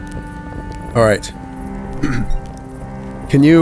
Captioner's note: clears throat